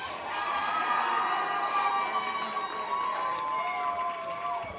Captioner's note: audience applause